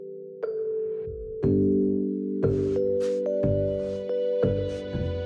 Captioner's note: music rises; rag and sand paper scrapes